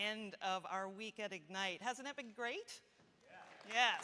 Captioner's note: applause